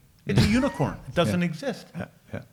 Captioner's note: laughs